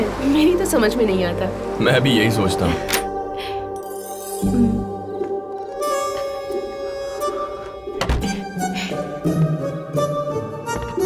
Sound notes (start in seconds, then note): 2.8 door opens; 7.9 door closes